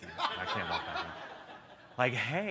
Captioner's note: laughter